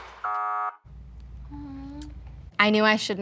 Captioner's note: buzzer buzzing